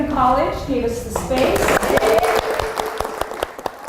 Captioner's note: applause